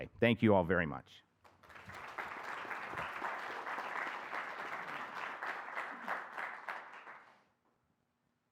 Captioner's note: applause